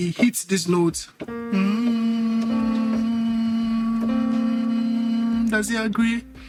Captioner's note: humming